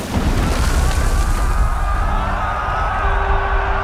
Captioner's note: all shouting